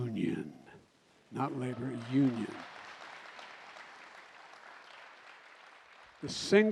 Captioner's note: applause